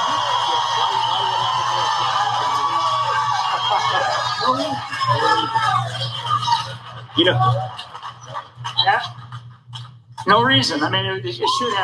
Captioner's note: applause